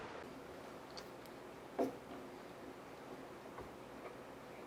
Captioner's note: Elvis slurping